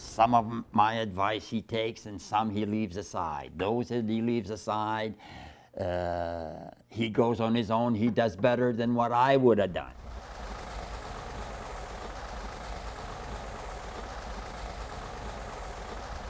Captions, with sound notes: Some of my advice he takes and some he leaves aside. Those that he leaves aside, he goes on his own. He does better than what I would've done. (machine wiring)